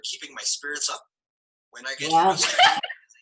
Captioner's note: laughter